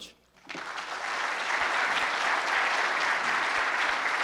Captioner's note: applause